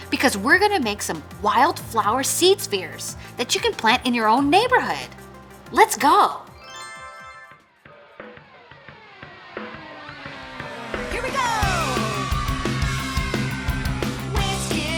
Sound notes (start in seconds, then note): 6.6 bright twinkling; 11.0 upbeat music